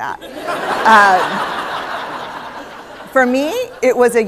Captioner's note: laughter